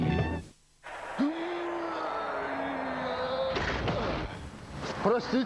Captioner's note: knock